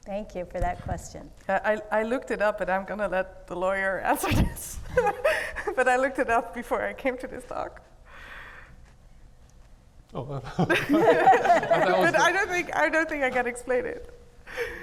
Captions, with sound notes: - Thank you for that question. - I looked it up but I'm gonna let the lawyer answer this. (laughs) But I looked it up before I came to this talk. (laughing) I don't think I can explain it.